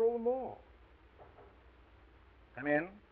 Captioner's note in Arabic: طرق على الباب